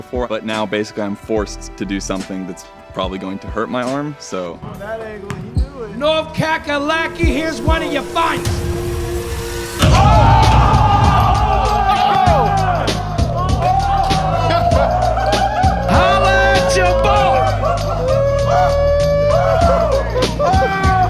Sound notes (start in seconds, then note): 9.1 intense music; 10.1 cheering; 17.9 cheering continues